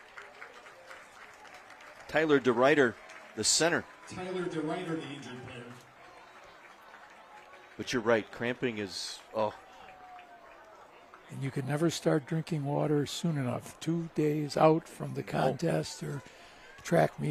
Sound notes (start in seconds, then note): 6.5 applause; 12.1 applause